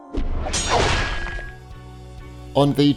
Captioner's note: swords clanging